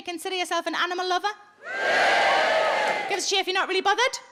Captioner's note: audience cheering